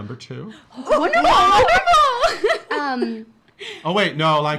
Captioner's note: laughing